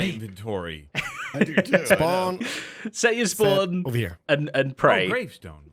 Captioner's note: laughs